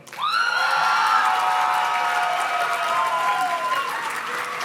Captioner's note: audience cheers and claps